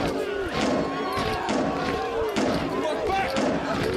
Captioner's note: people shouting continues; metal banging continues